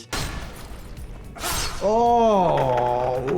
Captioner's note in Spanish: los personajes gritan